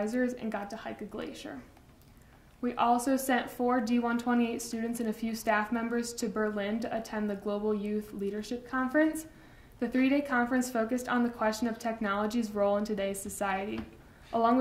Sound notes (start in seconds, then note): none